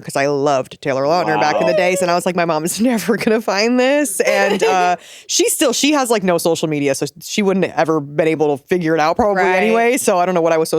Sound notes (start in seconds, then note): 4.0 giggling